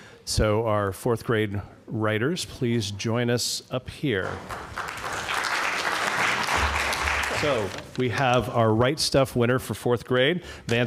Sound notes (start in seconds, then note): 4.2 applause